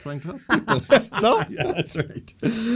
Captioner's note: laughter